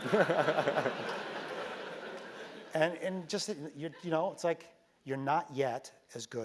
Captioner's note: laugh